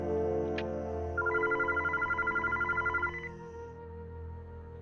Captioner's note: phone ringing